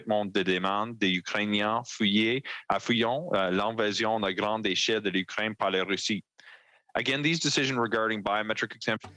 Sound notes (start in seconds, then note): 1.1 speaking French